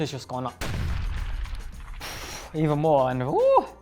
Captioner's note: explosion rumbling